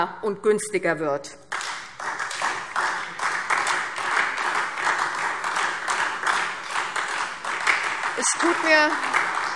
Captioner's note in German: Beifall SPD und DIE LINKE